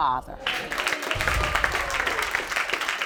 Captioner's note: audience applauding